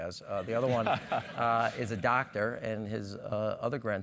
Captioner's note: laugh